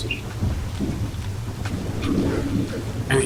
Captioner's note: anomaly alarm plinging from the suit